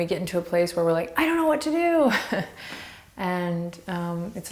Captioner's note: laughs